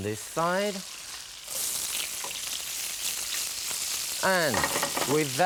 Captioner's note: oil sizzling